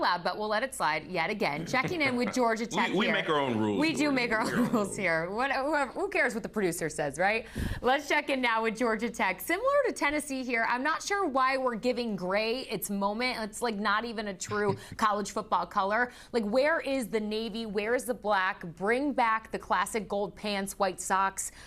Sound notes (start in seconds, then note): 11.4 laughter